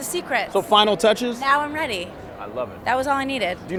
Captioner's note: laughs